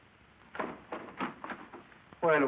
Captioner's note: door closes